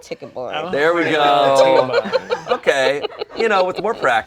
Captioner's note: laughs